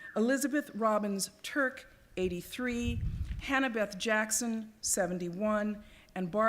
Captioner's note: none